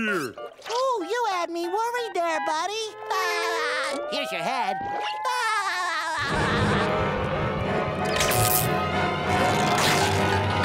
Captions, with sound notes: Ooh, you had me worried there, buddy! [laughing] Here's your head. [laughing]